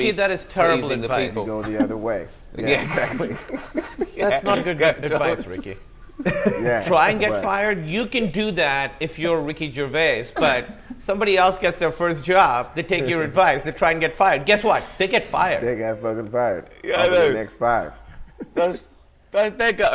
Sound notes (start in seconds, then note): 4.1 comedians laugh; 17.9 laughs